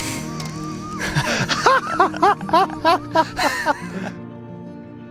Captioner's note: laughing